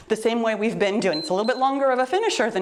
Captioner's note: timer beeps